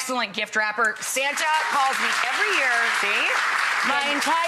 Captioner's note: audience applauds